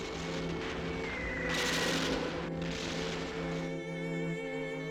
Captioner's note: explosions booming